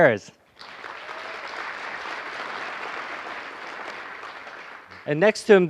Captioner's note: applause